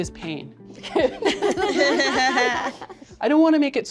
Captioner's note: group laughing